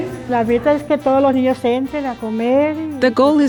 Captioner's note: speaking spanish